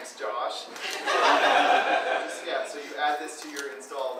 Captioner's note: audience laughing